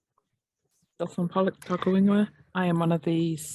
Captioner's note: speaking Maori